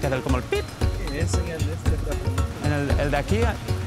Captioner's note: speaking in Spanish; driver speaking in Spanish; speaking in Spanish